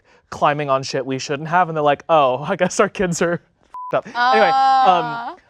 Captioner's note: beep